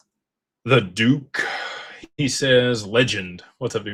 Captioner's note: sighs and gasps